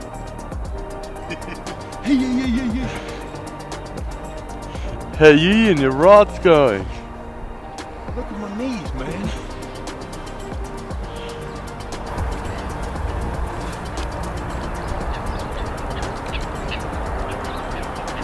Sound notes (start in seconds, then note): 0.8 laughs